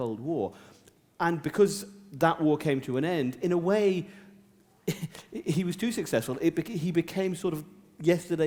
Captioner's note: chuckle